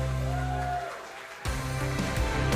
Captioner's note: gentle music; audience applauding; audience cheering; gentle music